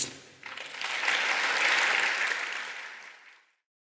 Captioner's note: clapping sound